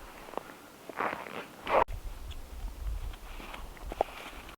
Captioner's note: footsteps crunching